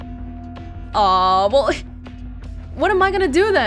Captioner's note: exhales